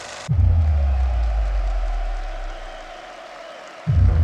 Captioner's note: crowd cheers